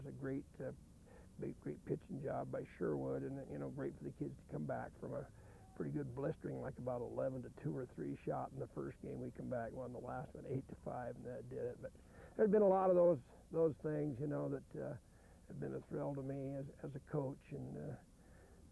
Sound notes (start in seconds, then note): none